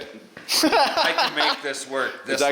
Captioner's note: laughs